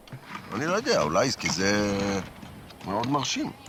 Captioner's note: speaking Hebrew